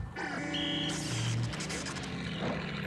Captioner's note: whistle blows